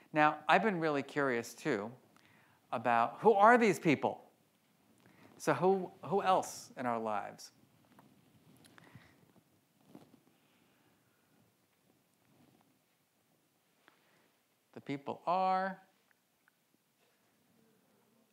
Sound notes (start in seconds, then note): none